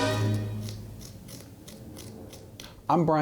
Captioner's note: tool scraping the pumpkin